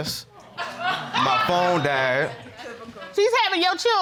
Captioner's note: audience laughs